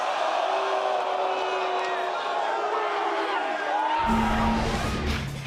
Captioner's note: cheers & boos